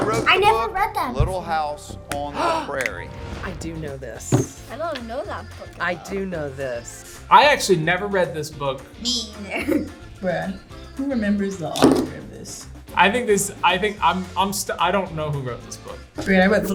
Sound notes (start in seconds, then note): 2.3 gasps; 9.4 laughs